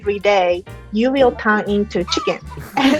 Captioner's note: chicken clucks